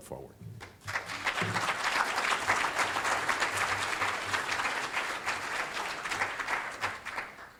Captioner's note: audience applauding